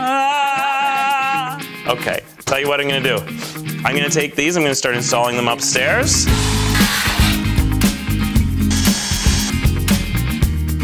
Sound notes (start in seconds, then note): 0.0 muffled singing; 6.2 whirring; 8.0 upbeat music